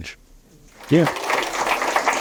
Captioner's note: applause